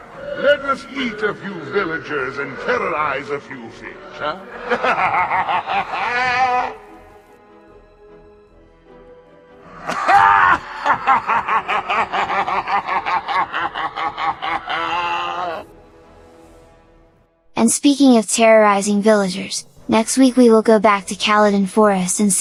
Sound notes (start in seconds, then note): 4.3 laugh; 13.1 evil laugh